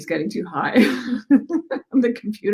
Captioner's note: laughs